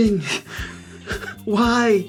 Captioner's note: laugh